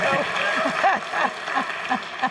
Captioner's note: laughing